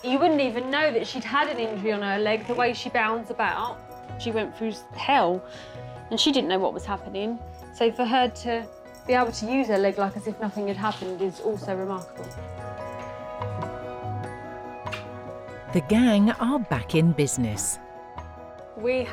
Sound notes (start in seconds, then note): 12.8 lively music; 14.9 kiss smacks